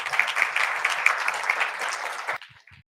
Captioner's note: applause